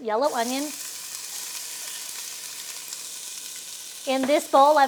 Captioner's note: oil sizzling